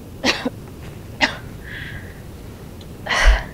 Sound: Jane coughing

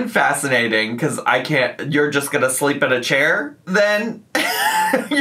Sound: laughs

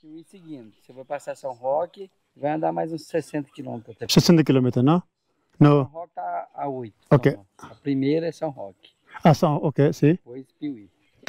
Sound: speaking in Spanish

